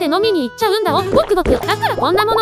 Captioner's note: gulp, gulp...!